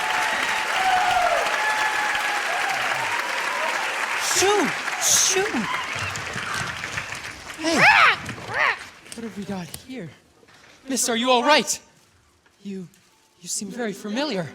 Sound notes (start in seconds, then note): 3.4 applause; 7.6 screaming and groaning